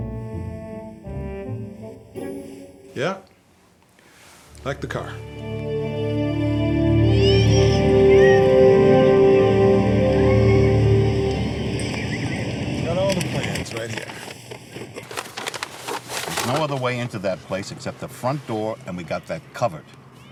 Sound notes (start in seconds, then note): 0.0 playful music; 7.0 group chattering